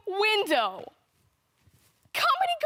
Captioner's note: soft breathing